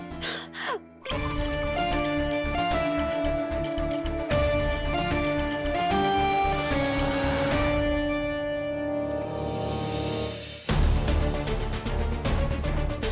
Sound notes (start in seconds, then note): 1.0 pouring water; 10.6 pensive music playing